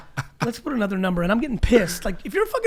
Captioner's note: Allen laughs